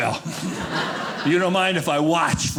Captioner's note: audience laughing